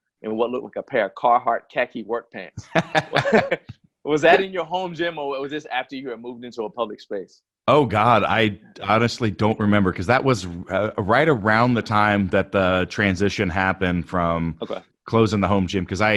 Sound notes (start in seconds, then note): 2.5 both laugh